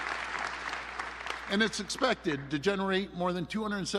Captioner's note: applause